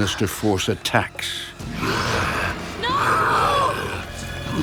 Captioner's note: snarling and growling